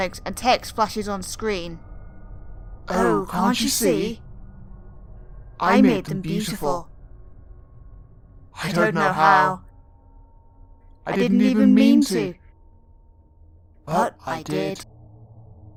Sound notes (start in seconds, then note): 2.4 does a creepy voice, audio editing-aided